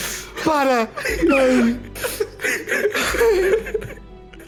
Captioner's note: everyone laughing